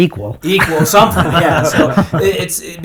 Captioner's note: laughing